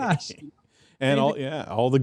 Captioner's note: chuckling